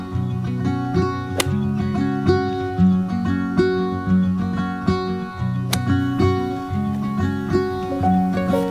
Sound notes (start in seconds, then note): 1.2 golf club smacks